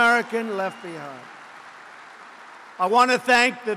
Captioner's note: applause